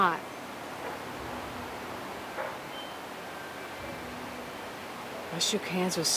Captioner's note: piano music; wind whooshing